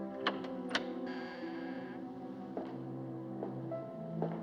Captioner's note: door Opens, Hinges Creak; footsteps Approach